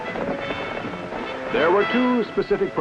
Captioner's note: horses galloping